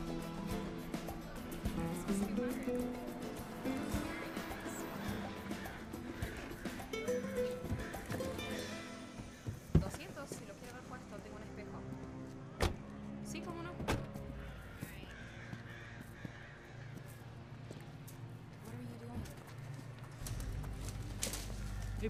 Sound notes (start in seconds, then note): 9.8 Allegra speaking in Spanish; 9.8 soft ominous music